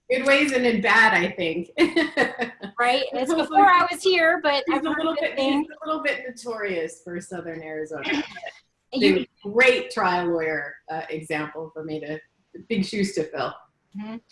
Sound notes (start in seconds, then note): 1.8 laughing